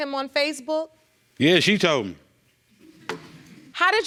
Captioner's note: audience laughing